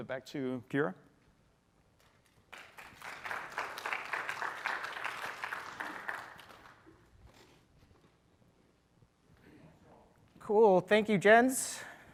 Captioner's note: applause